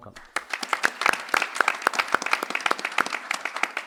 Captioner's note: applause